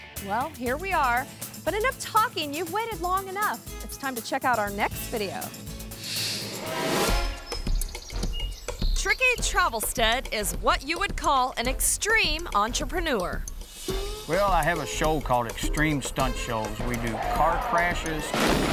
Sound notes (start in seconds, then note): 6.0 screen whooshes; 7.8 suspenseful music